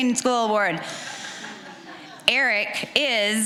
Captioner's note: audience chuckling